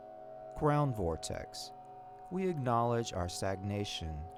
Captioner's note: tone reverberating